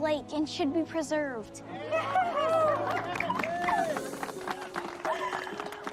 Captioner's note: cheering, applauding